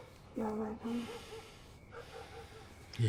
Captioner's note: sighing